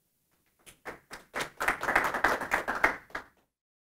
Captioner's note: group clapping